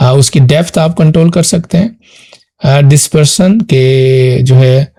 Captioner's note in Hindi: नाक से की जाने वाली आवाज़